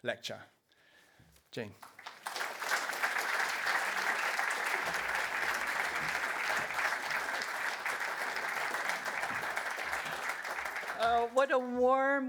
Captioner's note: applause